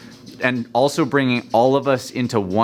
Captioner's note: birds chirping in background